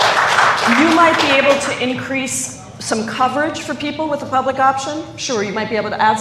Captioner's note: applause